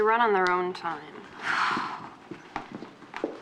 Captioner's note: sighs